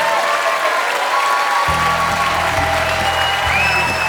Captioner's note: cheering and applause